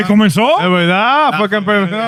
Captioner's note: speaking In Foreign Language